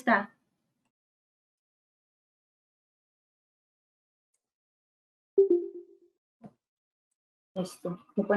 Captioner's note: silence